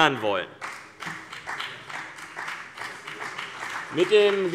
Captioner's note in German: Beifall BÜNDNIS 90/DIE GRÜNEN